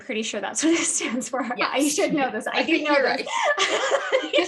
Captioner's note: laughing